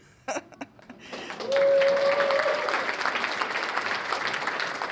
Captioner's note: cheers and applause